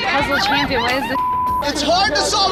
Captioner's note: beep